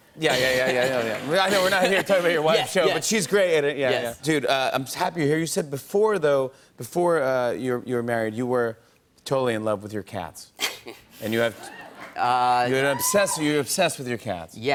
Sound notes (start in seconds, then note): 11.5 laughs